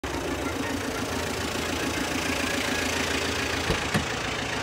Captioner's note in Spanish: Coche llegando lentamente